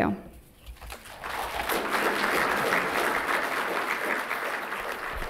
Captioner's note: applause